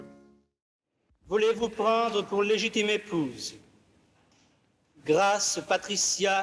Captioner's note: church official speaks in French